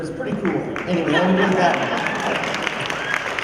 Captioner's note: applause